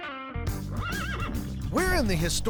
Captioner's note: horse neighs